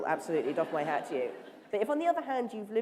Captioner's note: laughter